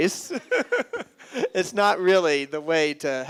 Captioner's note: laughs